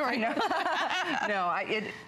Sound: laughter

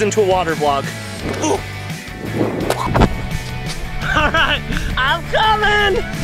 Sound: laughing

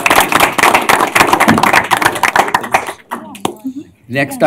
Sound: applause

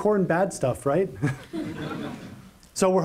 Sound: laughter

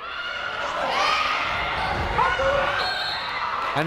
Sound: people shouting in the crowd; whistle tweeting

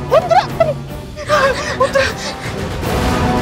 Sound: exclaiming

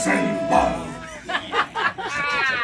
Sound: laughing

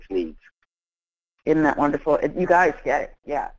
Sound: voiceover

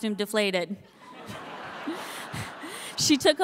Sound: audience laughing

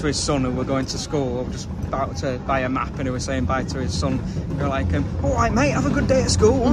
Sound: london accent

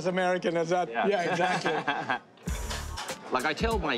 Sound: laughing

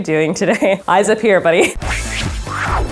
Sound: laughs; upbeat music

